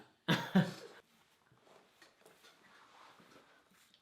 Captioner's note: laughs